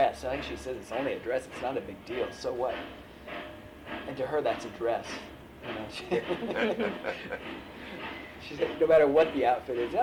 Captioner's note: laughter